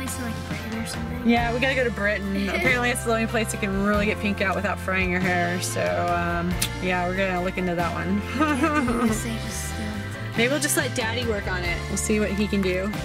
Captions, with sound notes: - Didn't you say there was like a place in Britain or something? - Yeah, we gotta go to Britain. Apparently it's the only place where you can really get pink out without frying your hair, so, yeah, we're gonna look into that one (laughs). Maybe we'll just let Daddy work on it. We'll see what he can do.